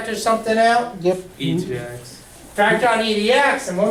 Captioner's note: voiceover